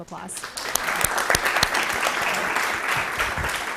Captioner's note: applause